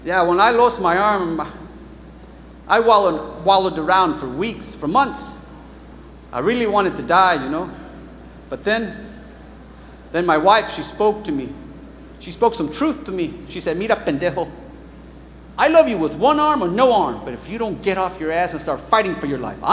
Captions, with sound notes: Yeah, when I lost my arm, I wallowed around for weeks, for months. I really wanted to die, you know? But then, then my wife, she spoke to me. She spoke some truth to me. She said, [speaks Mexican], I love you with one arm or no arm, but if you don't get off your ass and start fighting for your life,